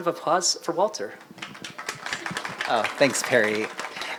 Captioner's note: applause